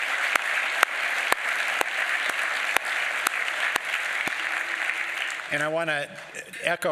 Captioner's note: applause